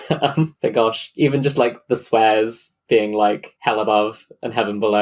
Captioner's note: laughs